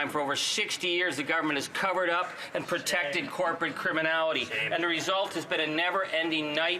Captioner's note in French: voix de l'interprète